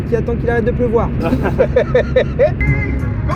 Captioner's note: laughs